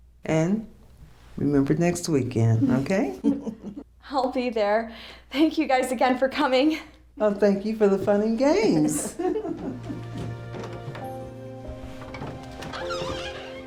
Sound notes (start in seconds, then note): 8.9 laughter; 9.8 dramatic music